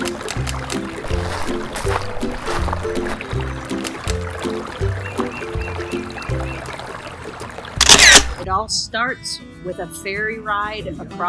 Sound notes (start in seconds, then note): 7.8 camera shutter